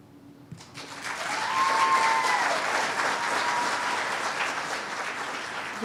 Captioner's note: cheers and applause